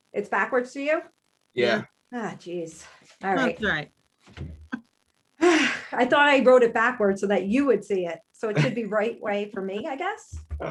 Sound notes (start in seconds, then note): 3.5 sighing